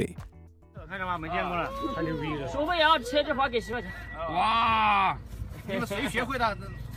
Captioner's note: crowd speaking in foreign language